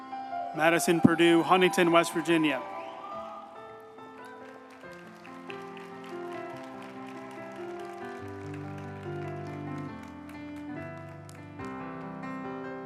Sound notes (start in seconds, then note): 4.1 group applauding; 4.1 uplifting music